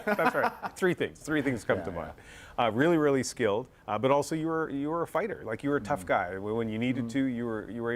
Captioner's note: laughter